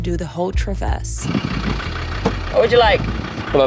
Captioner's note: truck engine rumbling